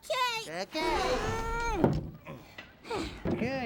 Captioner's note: grunts then sighs